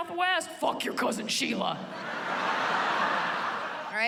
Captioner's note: laughter